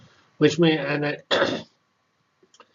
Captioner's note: cough